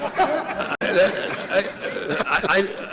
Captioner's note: laughter